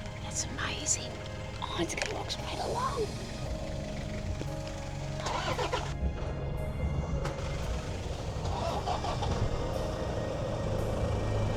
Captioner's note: sighs